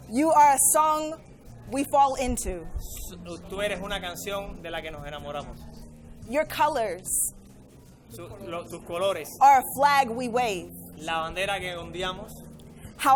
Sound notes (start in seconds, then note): 3.0 interpreter speaking in foreign language; 8.3 interpreter speaking in foreign language; 11.1 interpreter speaking in foreign language